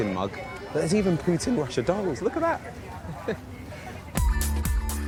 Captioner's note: laughs; upbeat music